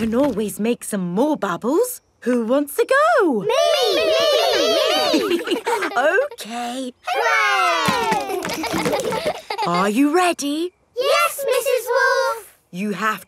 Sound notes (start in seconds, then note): 8.0 chuckles; 8.7 kids laughing